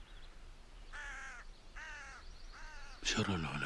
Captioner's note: crow singing